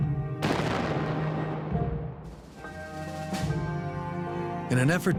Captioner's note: thunder roars while music continues